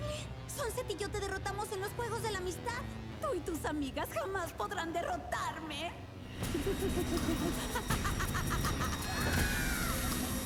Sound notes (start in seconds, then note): 6.4 laughter; 9.0 scream